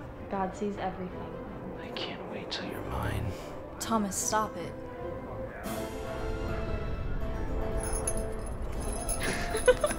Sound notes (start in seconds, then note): 7.8 bells jingle; 9.1 Thomas and Liza laugh